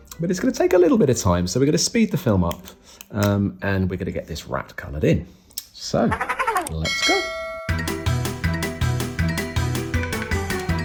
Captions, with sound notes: But it's going to take a little bit of time, so we're going to speed the film up. And we're going to get this rat coloured in, so let's go. (bell ringing) (chaotic music)